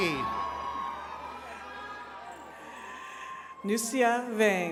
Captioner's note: attendees cheering